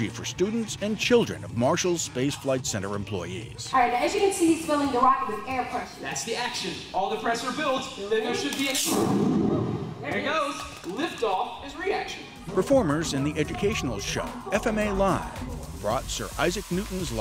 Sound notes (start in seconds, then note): 8.8 launch sound